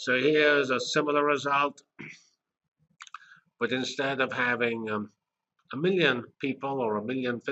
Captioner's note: cough